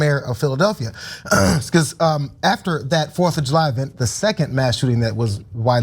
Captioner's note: cough